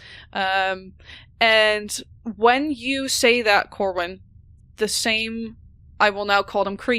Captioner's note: A low hum begins to build in the background